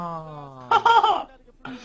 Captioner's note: laughing